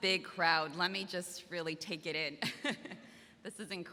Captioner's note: laughs